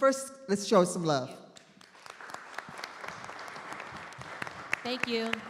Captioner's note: audience applauding